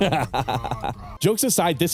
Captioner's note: laughs